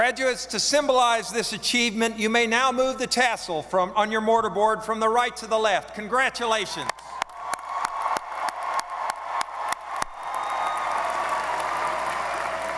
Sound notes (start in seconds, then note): 7.1 audience applauding